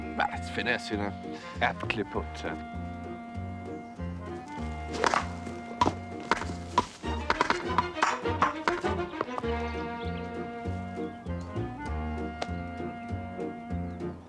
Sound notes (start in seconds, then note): 6.3 ball ricochets wildly